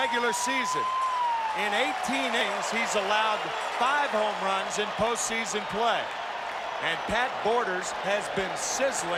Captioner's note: applause